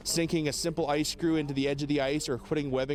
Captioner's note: voiceover